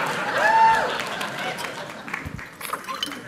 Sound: applause

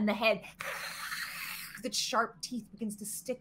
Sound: Deborah hisses

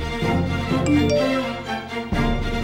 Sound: phone beeping

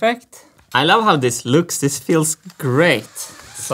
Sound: drill whirring

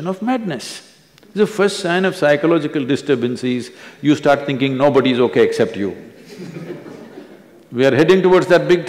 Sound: laughter

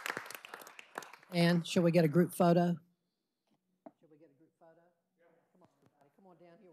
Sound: applause

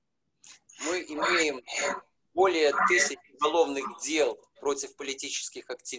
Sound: speaking foreign language

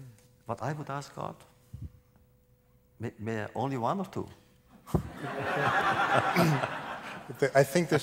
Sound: laughter

